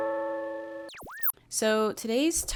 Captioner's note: high frequency buzz